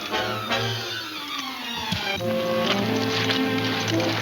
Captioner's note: gun whacking